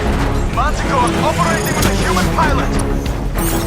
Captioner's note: khalil over radio